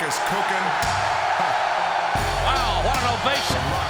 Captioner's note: crowd cheers